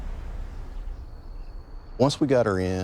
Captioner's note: insects chirring